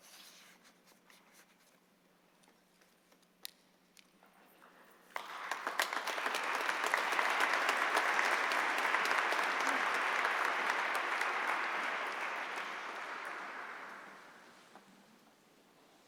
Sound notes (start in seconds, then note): 5.1 applause